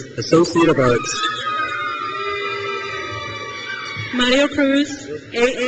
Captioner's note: crowd cheers